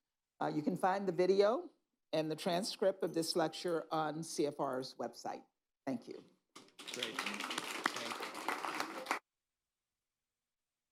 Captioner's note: applause